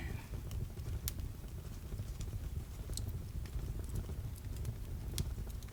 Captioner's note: crackling continues